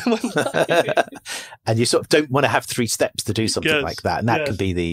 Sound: laughs

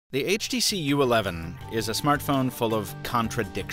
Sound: voiceover

